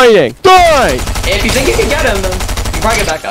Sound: rapid gunfire

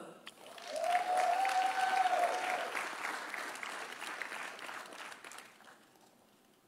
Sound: audience applauding; audience cheering

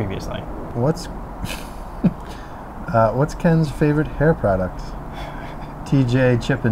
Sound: laughs

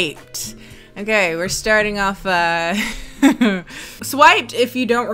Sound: laughs

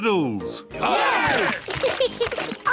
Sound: cheering; laughs

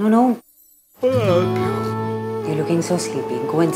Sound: Rohit yawning

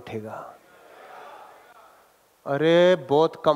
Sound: public chattering

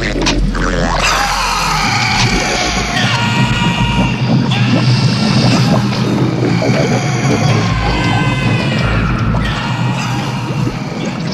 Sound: roaring

